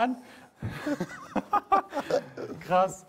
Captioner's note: laugh